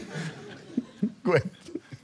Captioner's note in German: Lachend